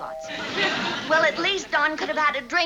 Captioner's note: doorbell rings